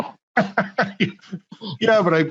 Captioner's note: laughing